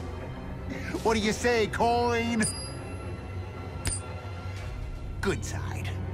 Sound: coin tosses

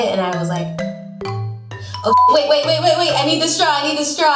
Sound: beeps

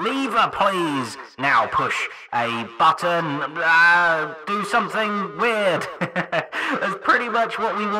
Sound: chuckles

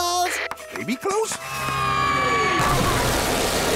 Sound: screaming

